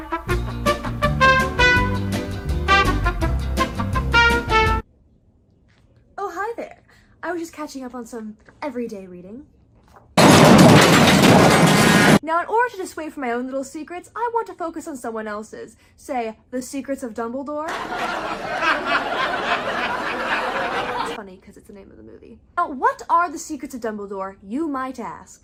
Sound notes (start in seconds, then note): 10.2 car crash sounds; 17.6 audience laughter